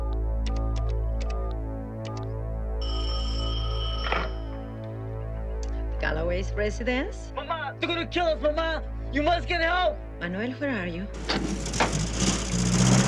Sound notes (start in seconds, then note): 2.8 phone ringing